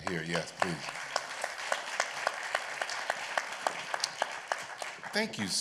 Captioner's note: applause